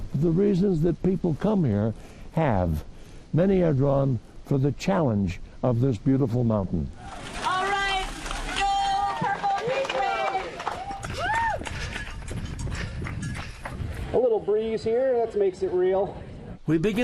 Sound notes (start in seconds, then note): 8.2 competitors applauding; 11.6 breathing deeply